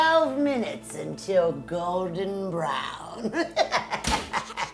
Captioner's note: laughing